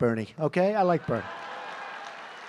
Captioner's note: applause